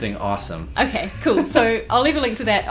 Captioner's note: laughs